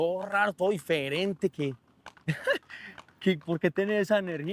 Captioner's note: laughs